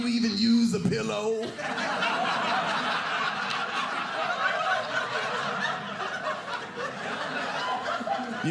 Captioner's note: audience laughing